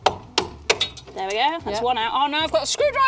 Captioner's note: hammering